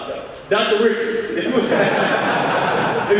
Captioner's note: audience laughing